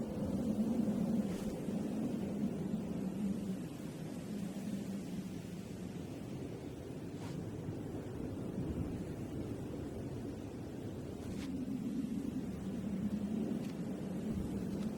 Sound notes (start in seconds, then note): 0.3 wind whistling continues; 7.6 wind whistling continues